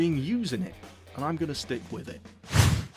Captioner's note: sound effect